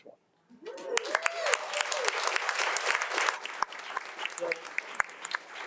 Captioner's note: board members and attendees applauding